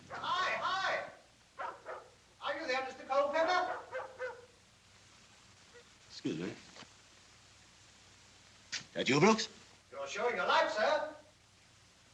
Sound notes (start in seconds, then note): 1.5 dog Barking